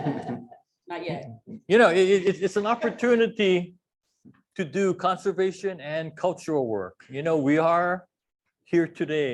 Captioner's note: laughter